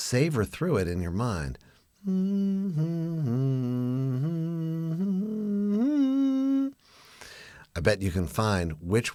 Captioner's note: humming